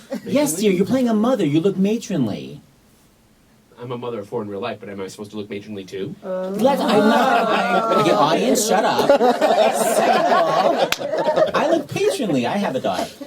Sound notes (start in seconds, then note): 6.2 people in background